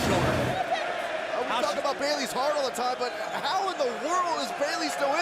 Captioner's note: crowd chatter